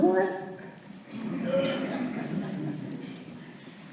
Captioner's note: audience laughter